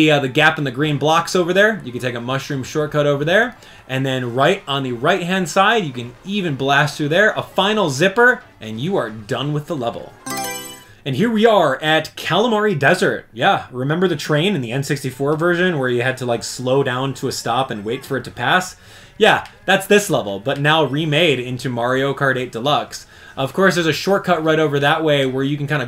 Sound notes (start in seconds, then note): 10.2 Mario Selection Sound